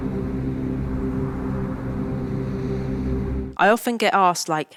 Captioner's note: gentle music; wind howling